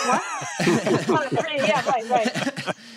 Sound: laughter

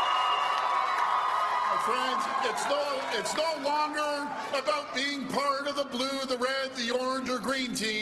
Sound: cheers and Applause

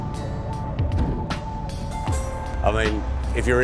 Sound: thudding

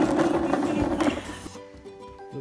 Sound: crash

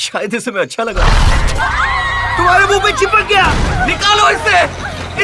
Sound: screaming

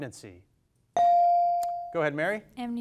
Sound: device dings

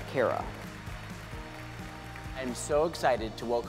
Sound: audience applauding

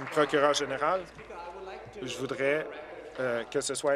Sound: applause

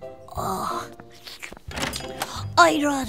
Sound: licks lips

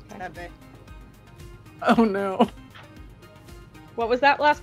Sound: laughs

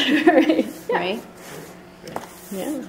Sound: voiceover

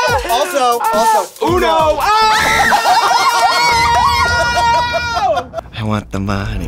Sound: everybody cheers

